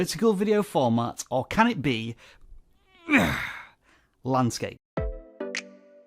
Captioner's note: grunts; chill hip hop music